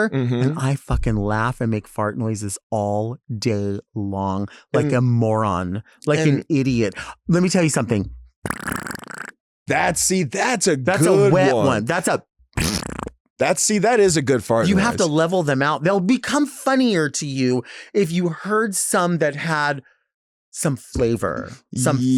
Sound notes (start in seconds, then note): 8.4 mouth farts; 12.5 mouth farts